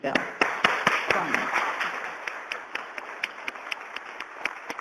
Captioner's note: applause